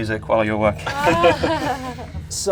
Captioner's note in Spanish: risas